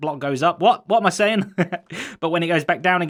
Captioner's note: chuckles